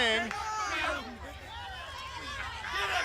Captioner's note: crowd chatter